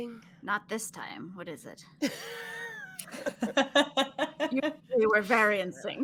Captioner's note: laughing